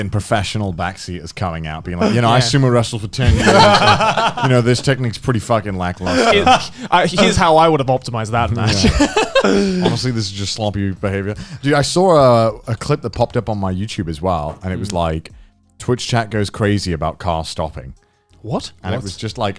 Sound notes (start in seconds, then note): 3.2 Garnt laughing; 6.0 Garnt laughing; 8.6 Joey laughing